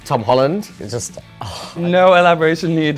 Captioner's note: sighing